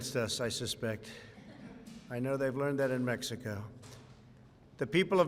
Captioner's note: laughter